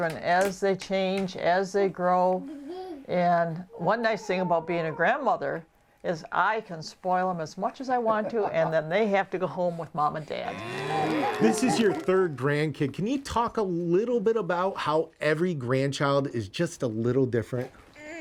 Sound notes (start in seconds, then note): 7.8 Dr Pol laughs; 10.4 mooing and applauding